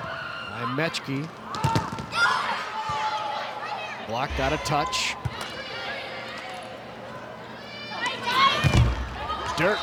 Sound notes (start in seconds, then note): 1.6 ball thumping; 2.1 players shouting indistinctly; 8.7 ball thumping